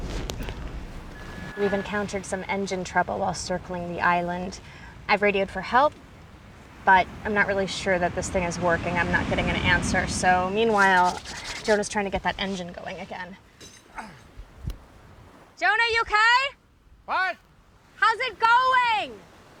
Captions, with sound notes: WE'VE ENCOUNTERED SOME ENGINE TROUBLE WHILE CIRCLING THE ISLAND. I'VE RADIOED FOR HELP, BUT I'M NOT REALLY SURE THAT THIS THING IS WORKING. I'M NOT GETTING AN ANSWER. SO, MEANWHILE, JONAH'S TRYING TO GET THAT ENGINE GOING AGAIN. [ GRUNTS ] JONAH, YOU OKAY? WHAT?! HOW'S IT GOING?!